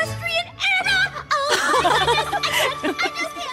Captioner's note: both laugh